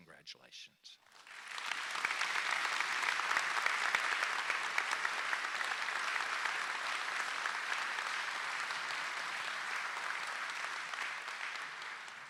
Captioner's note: applause